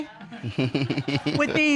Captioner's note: laughs